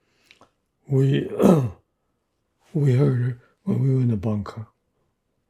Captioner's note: clears throat